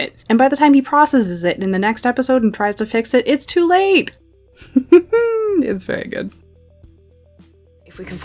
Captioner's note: laughs